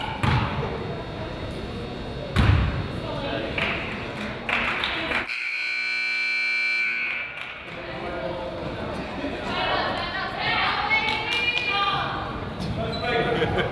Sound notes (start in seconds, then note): 4.1 crowd applauds; 5.2 buzzer honks